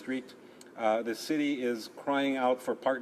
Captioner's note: speaking French